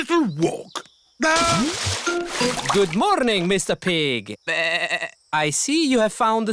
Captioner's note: bleats